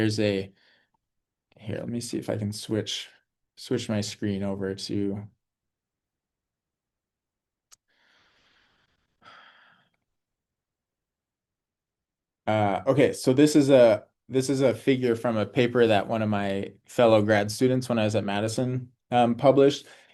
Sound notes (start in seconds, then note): 5.3 pause